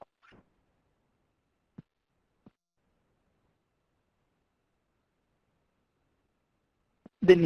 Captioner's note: pause